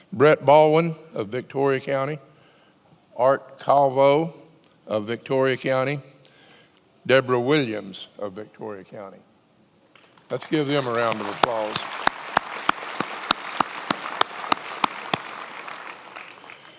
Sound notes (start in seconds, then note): 12.1 attendees applauding